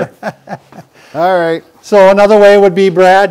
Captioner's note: chuckling